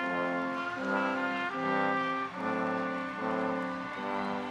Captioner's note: audience cheers